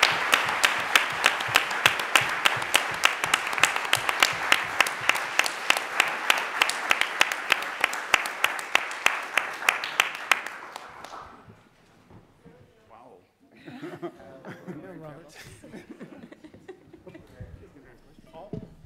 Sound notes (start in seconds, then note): 15.2 panel chattering; 15.4 laughs